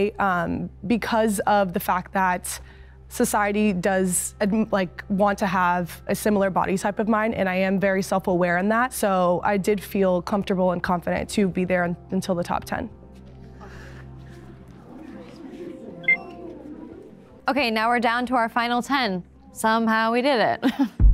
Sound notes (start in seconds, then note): 16.0 timer beeping